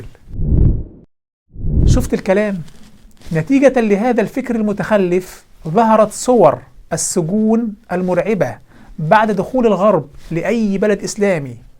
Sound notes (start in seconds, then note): 0.5 logo and sound effect